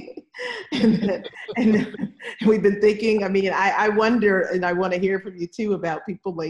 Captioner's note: laughter